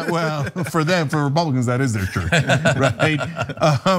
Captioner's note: laugh